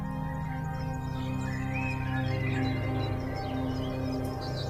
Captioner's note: birds chirping